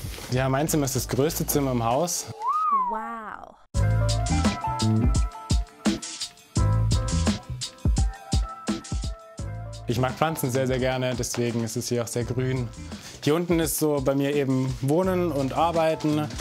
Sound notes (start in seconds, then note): 2.4 admiring whistle; 4.2 relaxed music